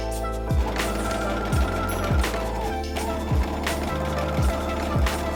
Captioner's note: sewing machine whirring